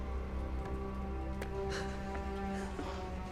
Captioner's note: panting